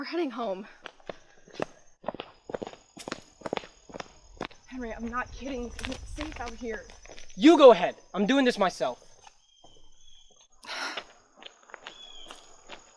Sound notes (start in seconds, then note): 10.6 sigh